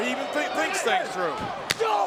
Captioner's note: hand smacks